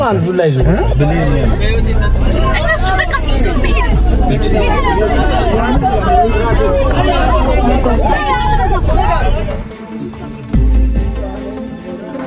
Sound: crowd noise

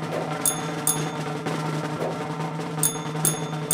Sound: bell rings; bell rings

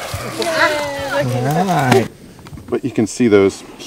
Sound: cheering

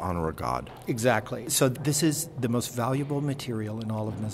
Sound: voiceover

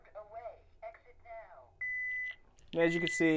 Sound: keypad beeps

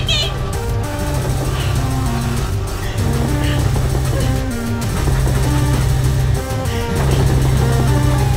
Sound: phone vibrating noise is overpowering

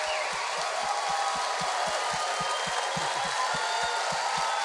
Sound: audience applause

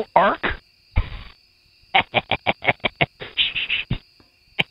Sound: law-breaking laughter

